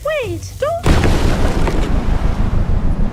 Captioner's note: explosion